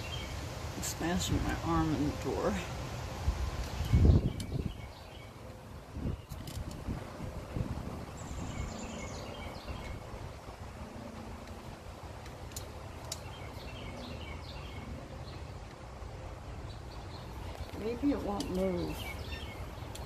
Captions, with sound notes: I'm smashing my arm in the door (wind is gusting) Maybe it won't move